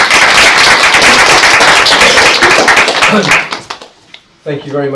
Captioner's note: applause